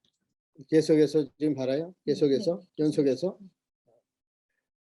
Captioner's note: speaking Korean